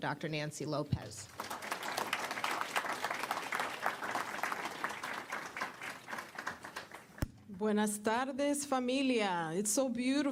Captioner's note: applause